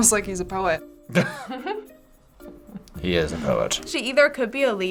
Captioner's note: both laugh